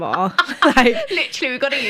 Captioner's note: laughter